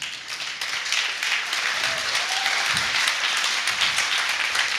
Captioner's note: applause